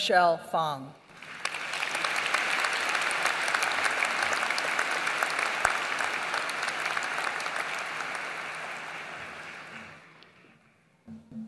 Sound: applause

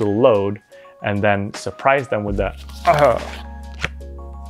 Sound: gagging

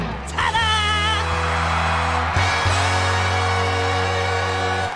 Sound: cheering

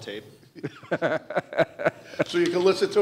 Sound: laughing

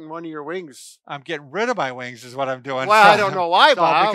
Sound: laughs

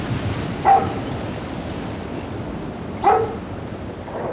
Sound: dog barks

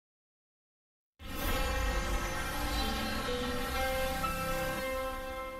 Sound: modernized chime plays

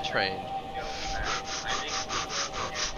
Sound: starts hyper ventilating

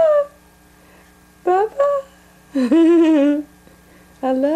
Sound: laughs

